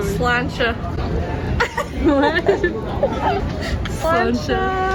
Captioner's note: laughs